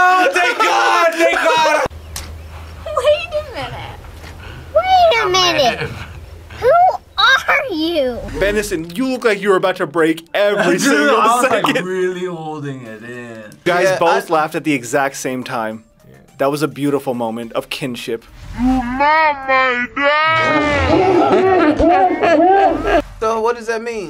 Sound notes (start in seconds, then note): 3.9 wheezes